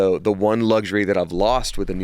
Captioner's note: none